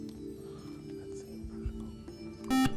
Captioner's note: buzzer